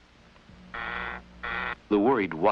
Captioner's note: door buzzer sounds